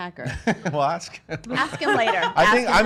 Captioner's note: laughing